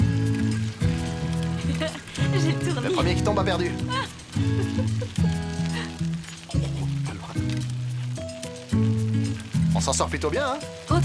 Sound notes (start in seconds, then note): 4.0 laughs